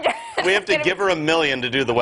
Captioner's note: laughter